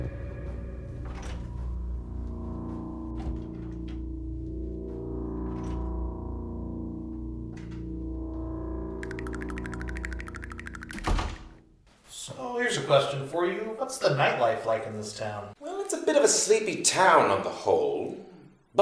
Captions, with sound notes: (haunting music) (rapid clucking) - So, here's a question for you. What's the nightlife like in this town? - Well, it's a bit of a sleepy town on the whole.